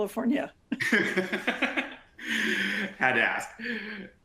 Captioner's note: both laughing